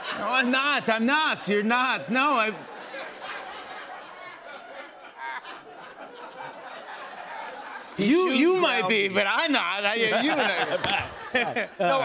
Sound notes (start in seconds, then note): 2.4 laughter; 9.9 laughter